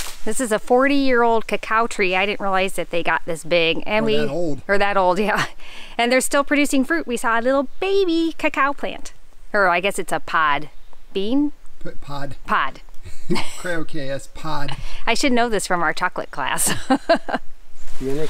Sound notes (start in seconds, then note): 13.0 laugh; 16.6 laughs